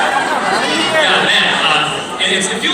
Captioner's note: humans producing noise